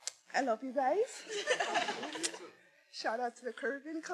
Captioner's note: faculty members laughing